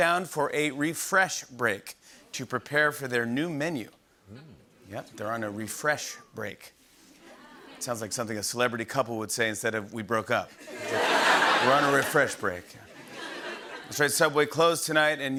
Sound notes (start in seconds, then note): 10.6 laughter